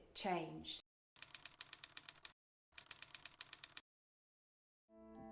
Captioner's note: typewriter clicking